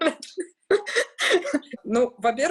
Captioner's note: laughs